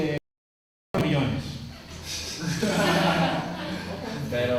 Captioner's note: class laughs